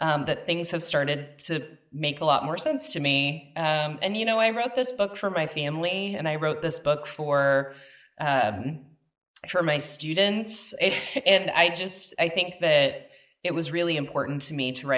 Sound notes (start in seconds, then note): 10.3 laughs